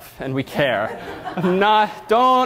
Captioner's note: audience laughter